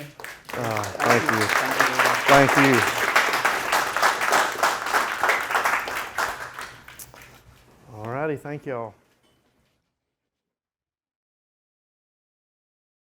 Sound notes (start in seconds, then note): 1.0 students clapping; 3.4 students clapping